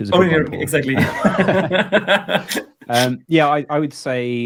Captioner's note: both laughing